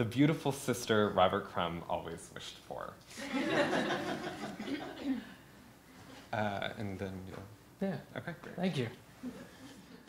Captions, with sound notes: the beautiful sister Robert Crumb always wished for. (laughter) And then you'll? - Yeah. - Okay. - Thank you.